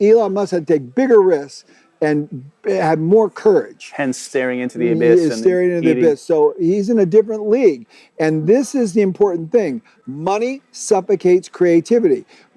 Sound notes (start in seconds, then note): 3.9 both chattering